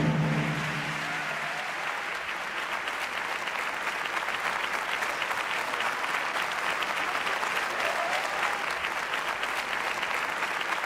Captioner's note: applause